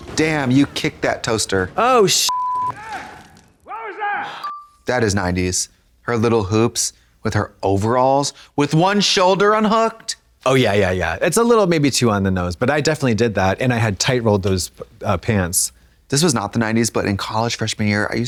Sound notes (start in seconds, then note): 2.2 beep